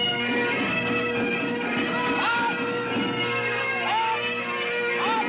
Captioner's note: bagpipes playing; shouting